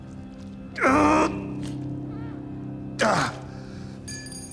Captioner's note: groans; tinkle